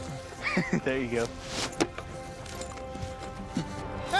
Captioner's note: chuckles